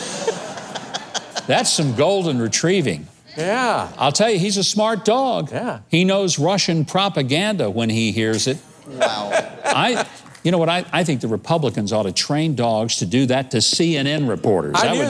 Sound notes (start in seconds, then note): 0.0 crowd laughs; 8.8 laughs